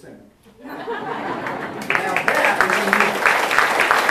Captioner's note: audience laughs and applauds